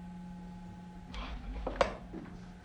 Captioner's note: gasping